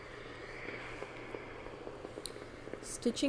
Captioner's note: steam iron boiling